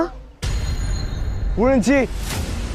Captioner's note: drone